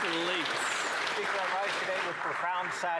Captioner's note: applause